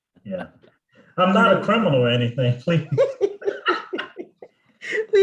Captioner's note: laughs